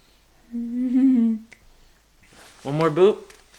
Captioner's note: chuckling